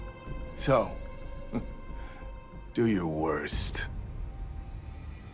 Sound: chuckles

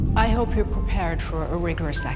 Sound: Dr. Lewis Voiceover

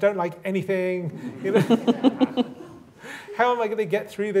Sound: laughter

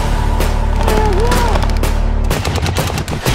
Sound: tense music; yelling

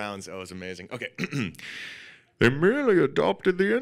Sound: throat clearing

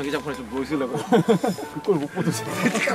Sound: laughs

